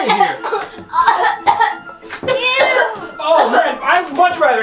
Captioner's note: girls coughing